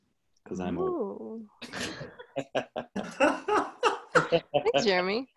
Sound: laughing

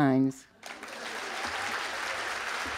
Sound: applause

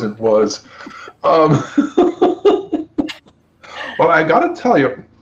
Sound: laughs

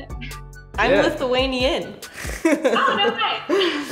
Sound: chuckles

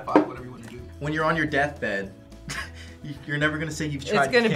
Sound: laughs

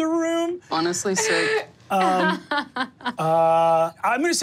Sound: laughing

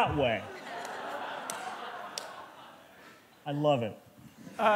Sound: laughter

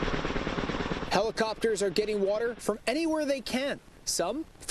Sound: sounds of helicopter

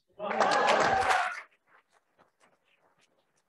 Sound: applauding

